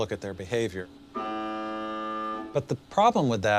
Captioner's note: buzzer sounds